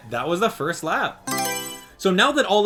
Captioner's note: Mario Selection Sound